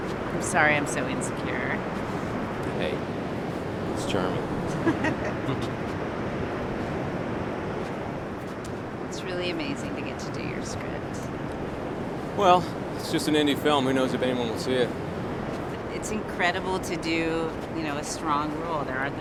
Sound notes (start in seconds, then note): 4.5 laughs